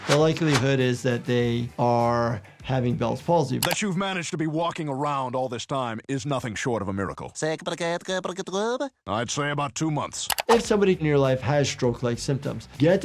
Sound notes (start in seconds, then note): 7.6 Popeye stuttering